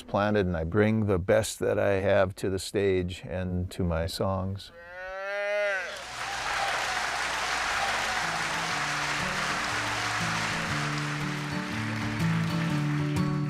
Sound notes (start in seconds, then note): 4.7 mooing; 6.0 applause; 9.2 guitar softly plays